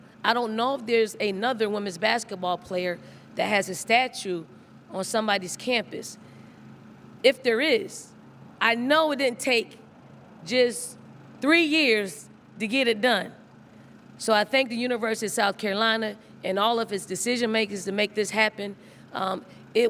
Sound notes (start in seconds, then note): none